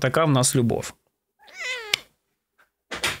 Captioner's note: meows